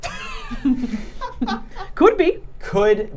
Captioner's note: laughing